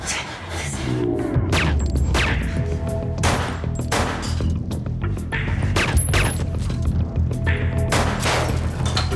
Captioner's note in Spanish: Disparos